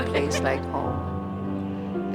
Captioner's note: laugh